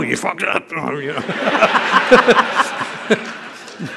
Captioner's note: laughter